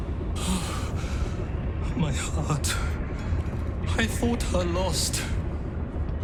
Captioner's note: sighs